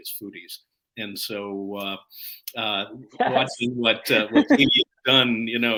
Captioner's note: laughter